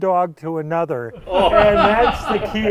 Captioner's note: laughing